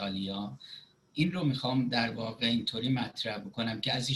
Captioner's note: speaking Farsi